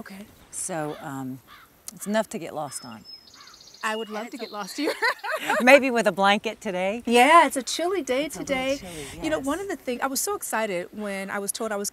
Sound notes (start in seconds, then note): 4.6 laughs